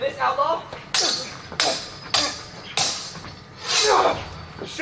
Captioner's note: swords clash